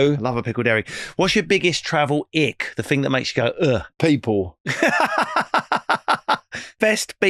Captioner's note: laughing